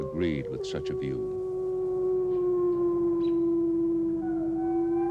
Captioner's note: wolves whimpering and howling